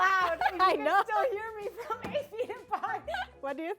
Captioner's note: laughs